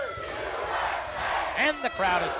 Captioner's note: crowd chants "USA"